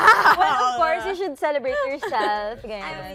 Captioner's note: chuckles